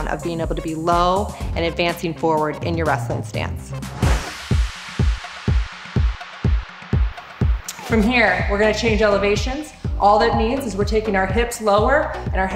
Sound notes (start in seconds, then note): 3.9 blast; 4.0 music with heavy bass